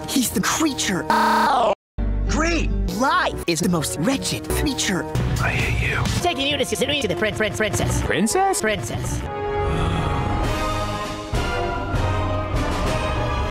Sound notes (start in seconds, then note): 9.6 sighs; 10.8 suspense music